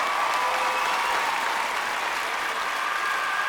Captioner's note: clapping and cheering